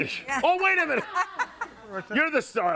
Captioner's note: group laughing